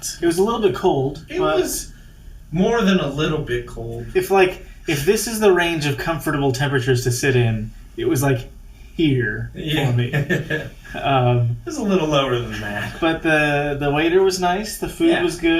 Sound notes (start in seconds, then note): 9.6 laughing